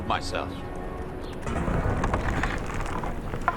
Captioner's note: wood creaking